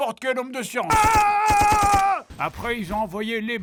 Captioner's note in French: tirs